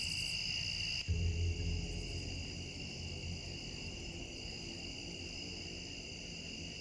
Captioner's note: crickets chirping; tense music